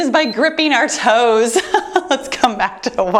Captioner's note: timer beeps; laughs